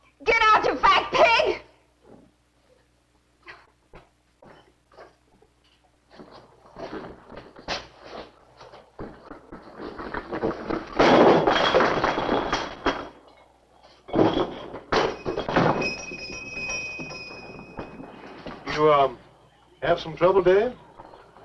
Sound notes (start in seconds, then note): 11.0 cans clattering; 15.1 bell ringing